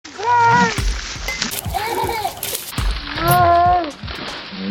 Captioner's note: water splashing